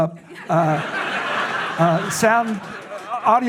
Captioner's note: audience laughs